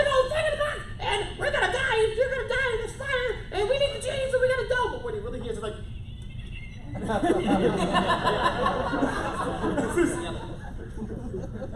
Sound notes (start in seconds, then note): 5.7 squeaking; 6.9 laughter